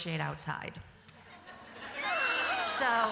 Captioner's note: laughter